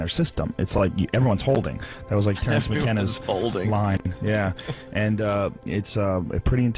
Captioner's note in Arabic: يضحك